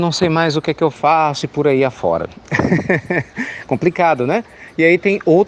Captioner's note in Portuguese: Risos